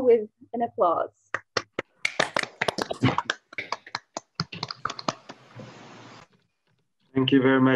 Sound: applause

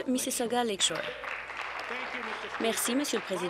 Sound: applause

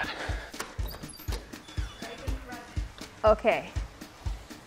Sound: door opens

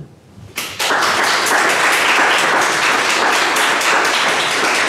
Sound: audience applauding

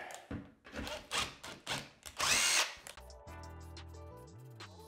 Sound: drill whirs; calm music

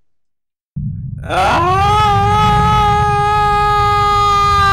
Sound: screaming

